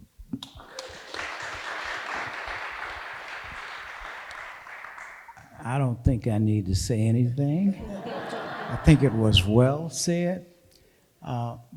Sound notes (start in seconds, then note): 0.4 audience applauding; 7.7 audience laughing